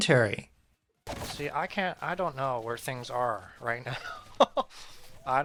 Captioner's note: wheezes and laughs